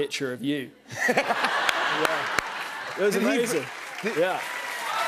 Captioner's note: laughter